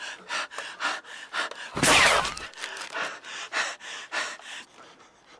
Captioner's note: Steven is pinned down by gun shots and breaths heavy